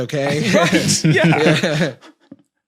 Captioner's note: guys chuckling